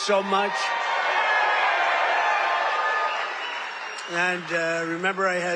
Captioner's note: cheers